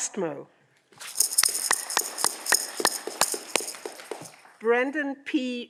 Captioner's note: audience clapping